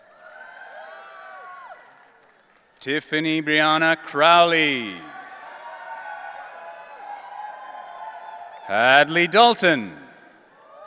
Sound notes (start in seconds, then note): 0.1 audience cheering; 5.2 audience cheering